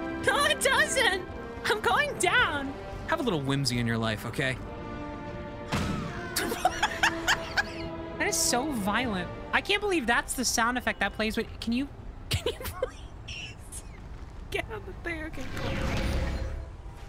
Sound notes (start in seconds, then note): 5.7 civilian screams; 6.1 laughs; 12.3 laughing